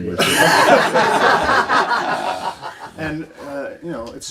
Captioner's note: everyone laughs